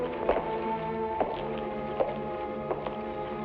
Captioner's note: shoes clack